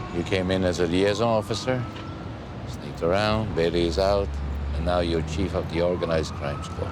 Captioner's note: none